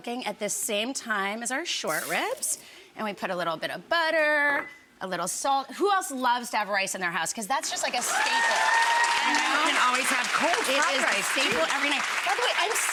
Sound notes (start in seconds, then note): 7.9 audience applauding